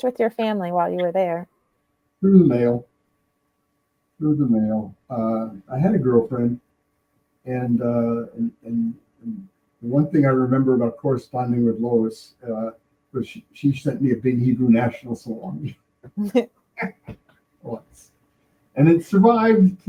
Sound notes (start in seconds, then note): 15.1 laughing